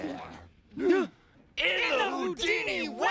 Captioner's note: all gasp